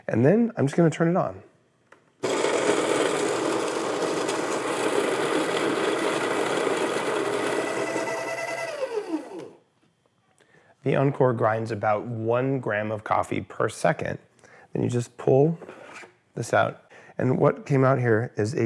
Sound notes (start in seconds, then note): 2.2 grinding; 8.0 mechanical whir